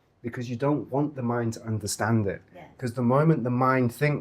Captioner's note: none